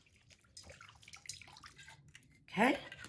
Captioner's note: wine splashes in bowl